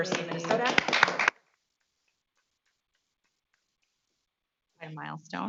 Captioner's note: audience clapping